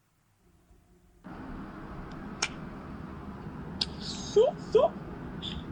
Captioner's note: noisy city